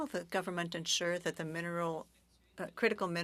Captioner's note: speaking French